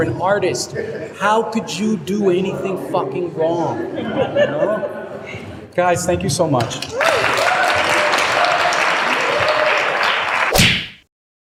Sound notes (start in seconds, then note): 6.6 clapping; 10.5 slap noise sound effect